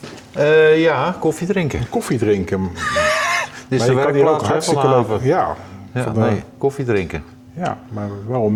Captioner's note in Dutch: gelach